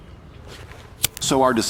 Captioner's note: lighter flicks